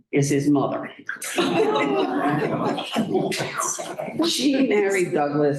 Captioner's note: laughter